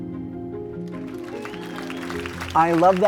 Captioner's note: audience claps